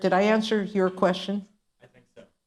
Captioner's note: audience member responds